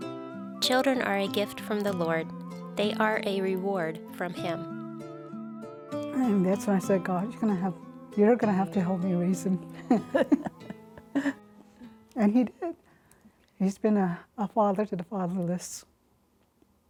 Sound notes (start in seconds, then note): 9.8 laughter